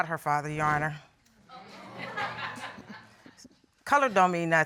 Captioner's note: audience laughs